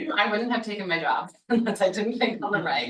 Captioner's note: chuckling